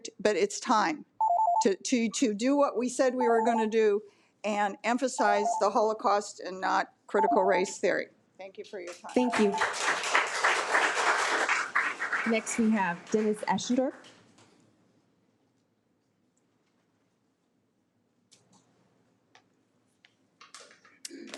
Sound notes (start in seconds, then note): 9.1 audience applauds